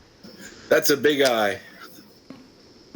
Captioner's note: bell